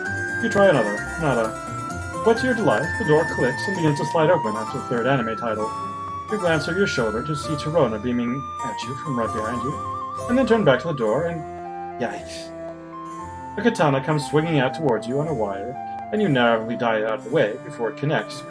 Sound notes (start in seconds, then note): none